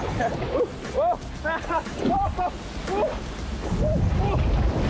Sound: yells

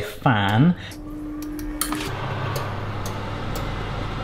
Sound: fan whirling

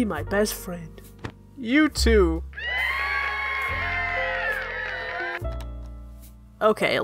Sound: studio audience cheer

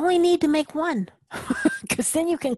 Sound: laugh

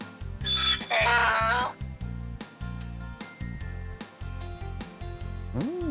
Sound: sound of a donkey

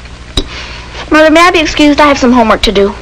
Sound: none

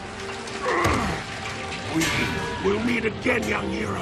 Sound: grunting

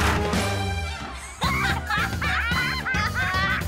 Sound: laughing

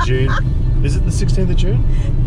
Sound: laughing

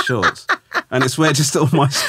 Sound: laughing

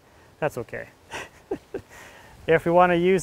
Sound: laughing

